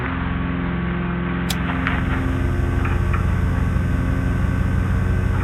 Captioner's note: machine buzzes